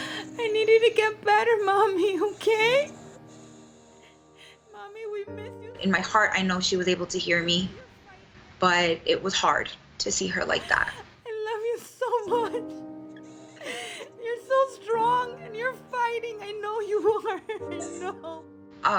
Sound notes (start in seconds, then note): 10.6 crying